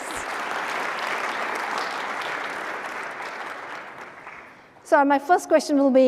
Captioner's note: applause